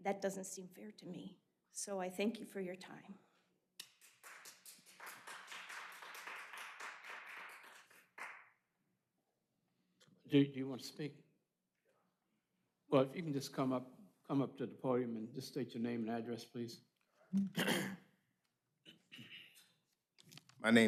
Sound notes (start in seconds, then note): 6.7 applause